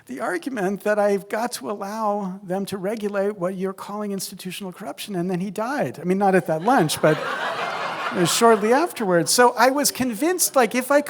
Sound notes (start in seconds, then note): 6.6 laughter